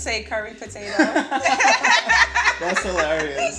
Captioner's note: all laughing